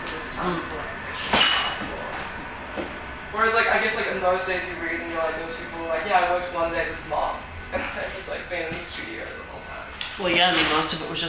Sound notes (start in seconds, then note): 7.6 laughs